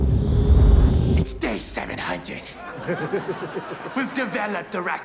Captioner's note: audience laughs